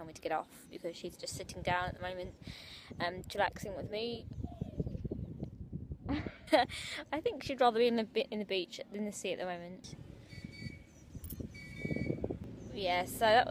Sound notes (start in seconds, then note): 5.9 laughs; 11.5 horn toots in background